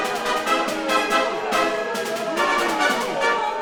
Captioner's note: tense, anxious music; booing